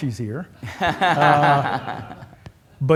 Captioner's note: laughter